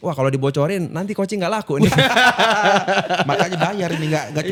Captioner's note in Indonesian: tertawa